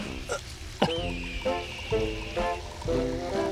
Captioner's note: coughs